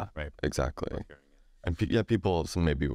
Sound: speaks faintly

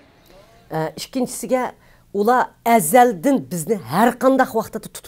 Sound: speaks in foreign language

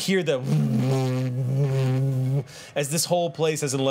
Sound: loud humming

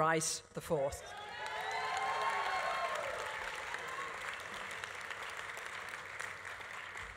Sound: audience cheering; audience applauding

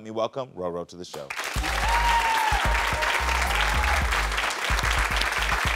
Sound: audience applauds and cheers

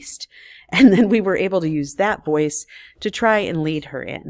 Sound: chuckles

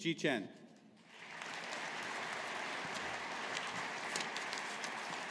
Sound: audience applauding

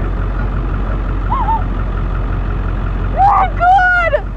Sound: Alexie gasps

